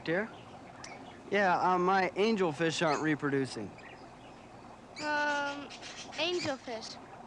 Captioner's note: birds squawking